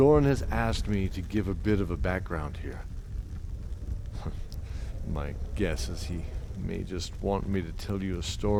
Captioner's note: under the breath